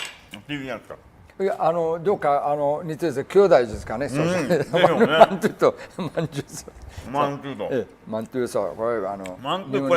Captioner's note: laugh